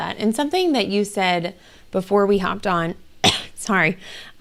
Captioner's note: coughs